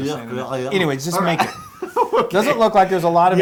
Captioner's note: laugh